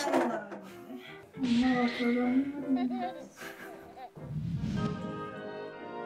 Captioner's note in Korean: 웃음